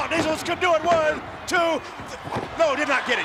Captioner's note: referee smacking mat